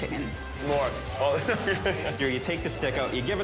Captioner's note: laughs